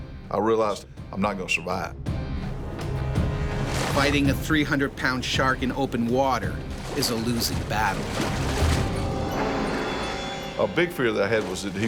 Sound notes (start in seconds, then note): 3.8 voiceover